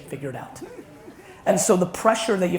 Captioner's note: audience laughs